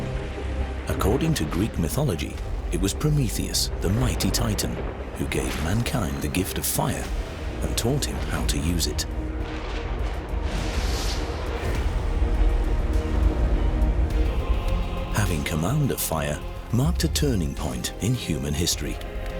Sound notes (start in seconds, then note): 10.3 sound of thunder